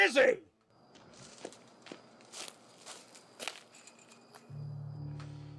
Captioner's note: footsteps crunching